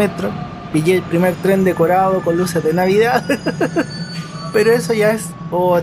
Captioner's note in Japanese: ハハハハ